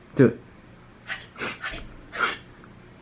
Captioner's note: both huffing; laughing